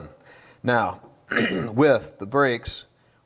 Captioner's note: clears throat